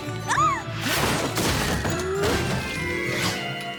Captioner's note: crash! crash!; crash! clatter!